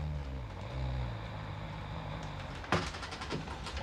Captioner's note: snoring